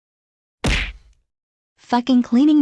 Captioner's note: crash